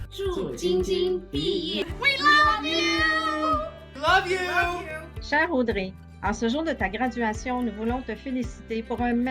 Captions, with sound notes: [NON-ENGLISH SPEECH] We love you! We love you! [NON-ENGLISH SPEECH]